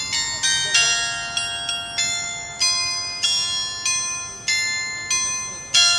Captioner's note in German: glocke